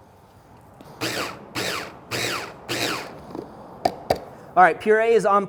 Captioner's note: food processor grinding